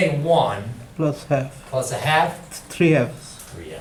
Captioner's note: voiceover